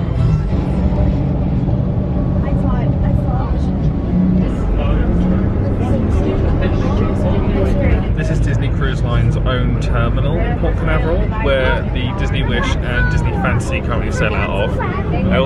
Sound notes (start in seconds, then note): 0.9 crowd chattering; 0.9 engine humming